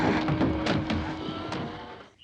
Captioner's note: bird chirping